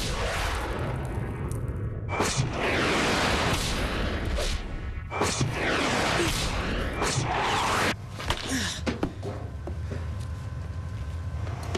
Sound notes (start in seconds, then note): 1.1 loud thud